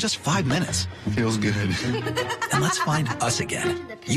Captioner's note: laughs